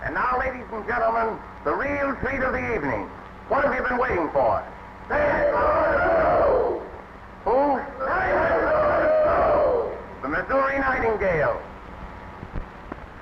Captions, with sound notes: - And, now ladies and gentlemen, the real treat of the evening. What have you been waiting for? - [Crowd] St. Louis Lou. - Who? - [Crowd] St. Louis Lou. - The Missouri Nightingale.